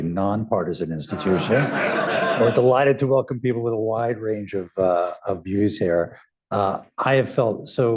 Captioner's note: laughter